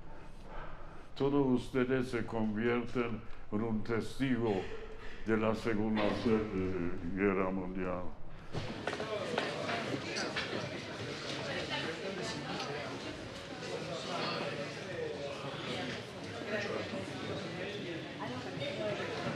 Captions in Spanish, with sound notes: Todos ustedes se convierten en testigos de la Segunda Guerra Mundial. [ Sonido de voces ]